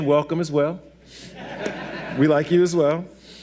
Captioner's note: audience laughs